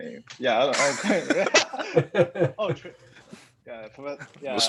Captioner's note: laughing